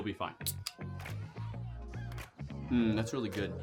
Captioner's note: can tab pops